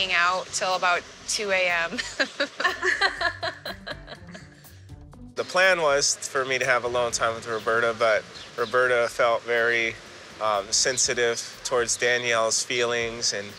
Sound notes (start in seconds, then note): 1.9 laughter; 1.9 laughs